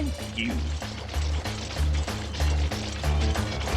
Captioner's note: machine whirring